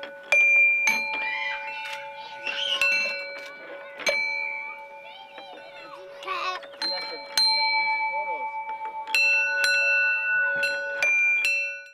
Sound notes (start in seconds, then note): 0.3 bell dinging; 6.6 bell dinging